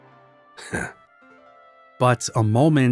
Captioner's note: chuckles